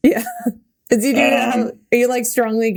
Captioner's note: Mikaela laughing